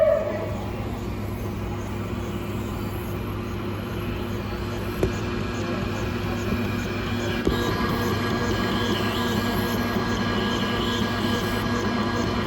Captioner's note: dog barking; Pet tag engraver machine runs